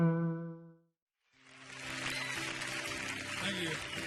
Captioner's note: audience applauding